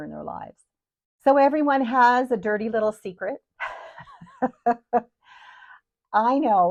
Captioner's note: chuckles